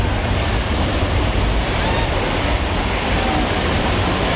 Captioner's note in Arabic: يندفع الماء